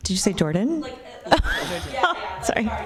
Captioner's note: laughter